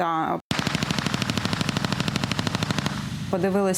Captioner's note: Sound of automatic gunfire